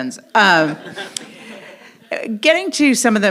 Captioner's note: audience laughs